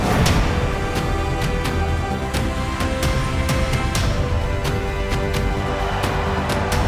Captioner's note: music intensifies; swooshing